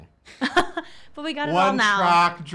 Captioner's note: laughing